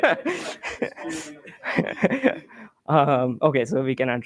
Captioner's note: laughter